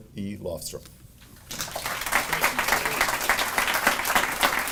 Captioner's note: audience applauding